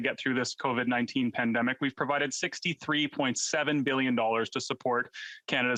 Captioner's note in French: voix de l'interprète